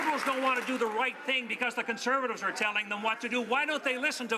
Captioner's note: some Applause